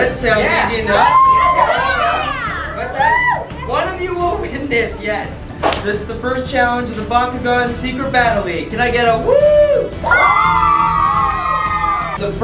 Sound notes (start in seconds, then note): 0.9 kids screaming; 9.2 kids scream whoo